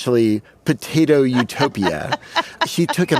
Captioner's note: laughs